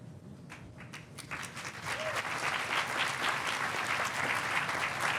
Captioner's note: audience applauding